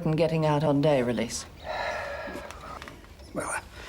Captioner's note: sighs